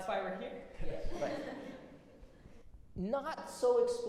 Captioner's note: audience laughs